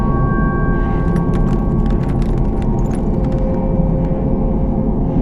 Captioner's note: glass crunching